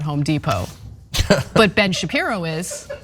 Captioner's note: laugh